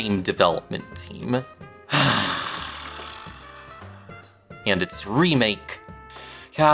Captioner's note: sigh